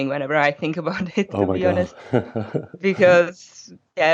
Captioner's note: laughs